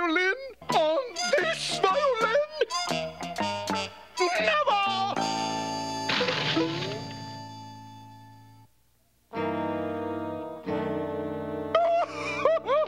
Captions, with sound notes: On this violin? On this violin? Never! (CRASHING)